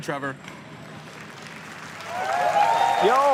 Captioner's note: applause